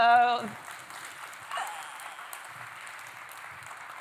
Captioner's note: applause